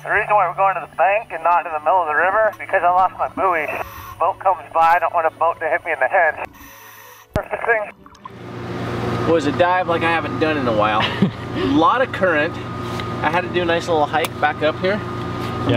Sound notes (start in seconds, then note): 8.6 engines whirring; 10.9 chuckles